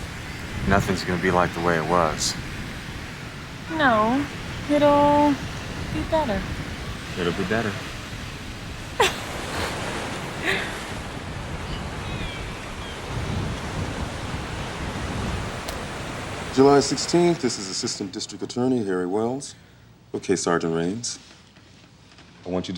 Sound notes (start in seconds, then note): 8.9 laughs; 10.8 waves crashing